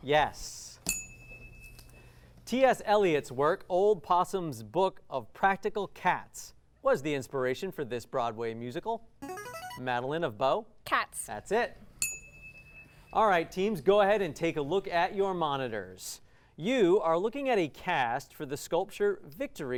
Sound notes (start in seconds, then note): 0.8 ding; 9.1 ringing; 12.0 ding